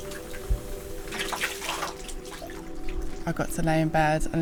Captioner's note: sploshing